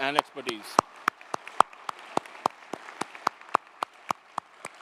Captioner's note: crowd applauding